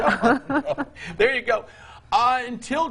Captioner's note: laughing